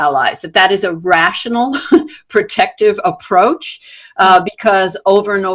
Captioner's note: chuckles